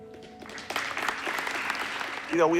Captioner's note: audience clapping